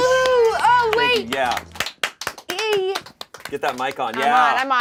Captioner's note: claps